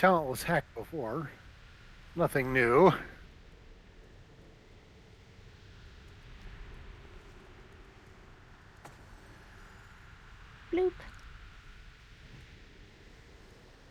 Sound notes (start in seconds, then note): none